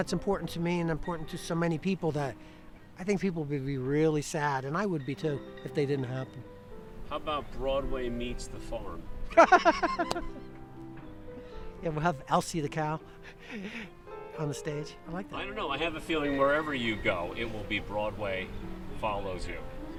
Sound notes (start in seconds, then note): 9.3 Joe laughing